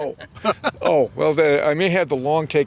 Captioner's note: laughing